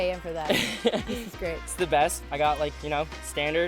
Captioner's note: laughs